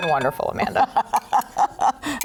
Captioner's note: laughs